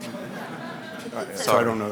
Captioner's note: audience laughing